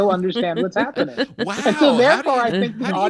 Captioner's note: all laughing